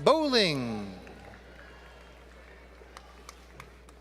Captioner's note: applause